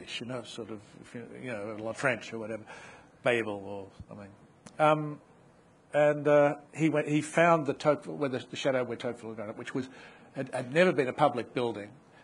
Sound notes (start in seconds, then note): none